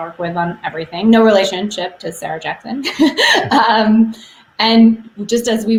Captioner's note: laughs